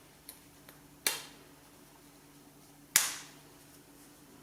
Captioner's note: fastener snaps